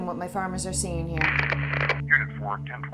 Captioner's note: static crackles